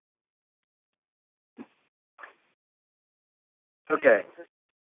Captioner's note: silence